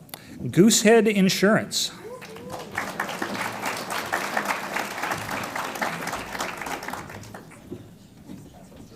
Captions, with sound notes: Goosehead Insurance. (audience applauds)